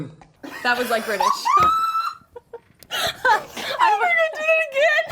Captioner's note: laughing